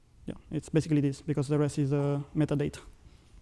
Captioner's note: none